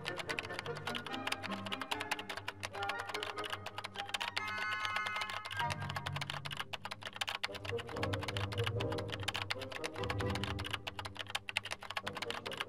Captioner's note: typing